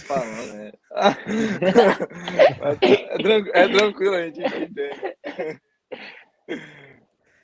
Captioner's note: laughs